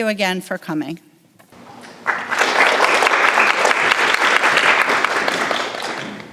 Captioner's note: audience applauds